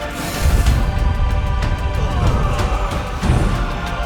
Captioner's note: metal clanging; men shouting